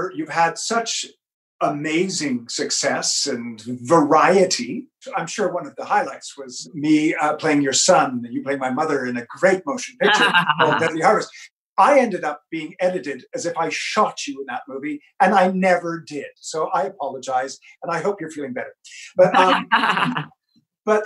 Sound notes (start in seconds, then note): 9.9 murmurs; 10.0 laughs; 19.1 laughs